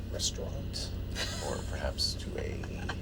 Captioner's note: laughs